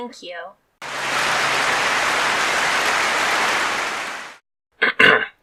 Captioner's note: clapping